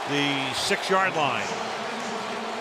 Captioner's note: cheering; pa announcement